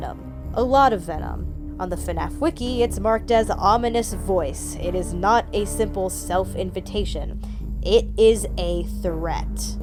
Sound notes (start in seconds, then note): 4.6 ominous voice